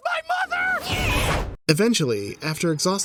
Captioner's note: screams